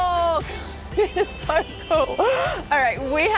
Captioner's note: laughing